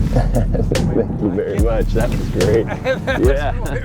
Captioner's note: laughing